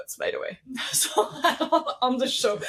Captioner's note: laughs